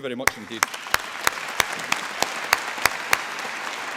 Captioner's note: applause